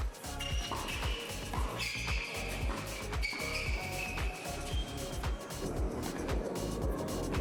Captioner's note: shoes squeak; ball thuds